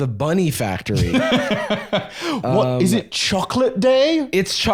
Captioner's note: laughs